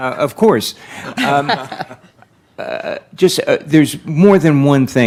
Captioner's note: laughing